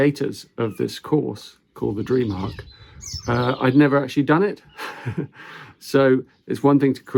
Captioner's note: chuckles